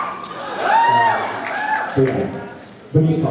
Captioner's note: cheers